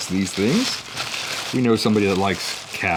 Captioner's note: paper rustling